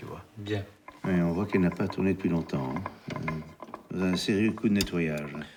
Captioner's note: speaking in foreign language